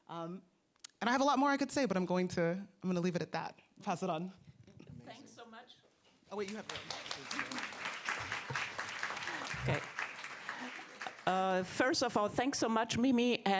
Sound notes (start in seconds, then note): 6.3 audience clapping